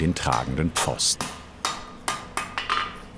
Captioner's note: hammering